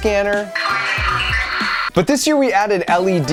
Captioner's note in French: le talkie-walkie grince